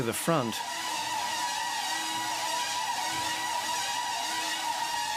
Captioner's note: drone buzzes